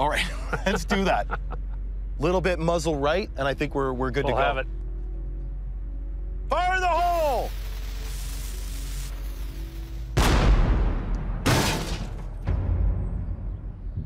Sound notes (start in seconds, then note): 7.0 wick sizzling; 10.1 cannon banging